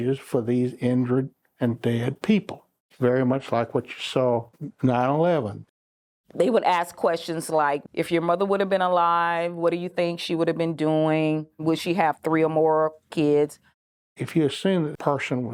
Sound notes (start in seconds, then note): none